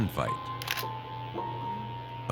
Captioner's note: click